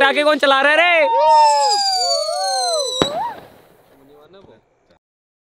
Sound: whistling sound

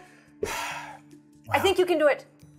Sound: sighs

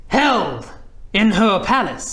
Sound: none

